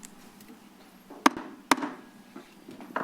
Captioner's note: gavel tap